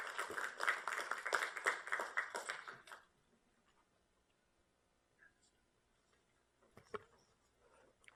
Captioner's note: applause